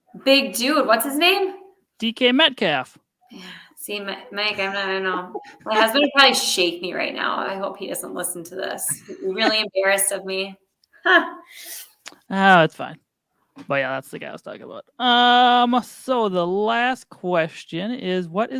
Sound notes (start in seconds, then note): 4.4 laughs; 10.7 chuckles